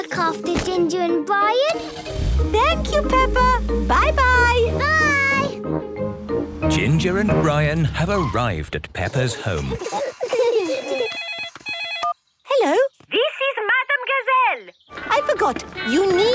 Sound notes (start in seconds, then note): 8.0 phone ringing; 9.1 giggling